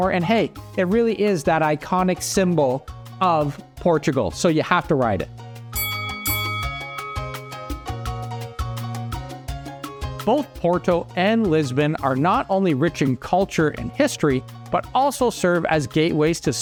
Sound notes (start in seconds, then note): 5.7 bell dings; 5.8 lighthearted music